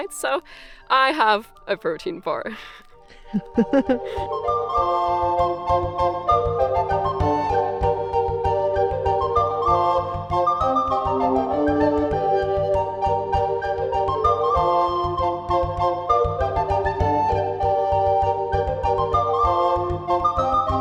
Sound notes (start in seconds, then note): 2.5 laughing; 4.6 medieval music playing